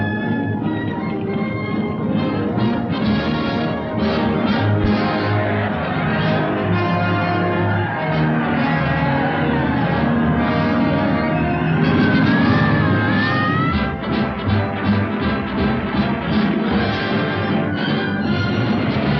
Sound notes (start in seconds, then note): 5.7 cheering